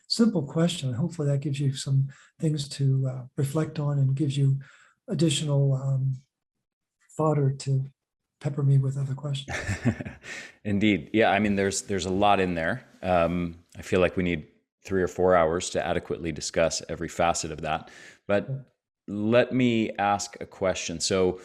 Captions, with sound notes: simple question. Hopefully, that gives you some things to reflect on and gives you additional fodder to pepper me with other questions. [chuckles] Indeed. There's a lot in there. I feel we need three or four hours to adequately discuss every facet of that. Let me ask a question.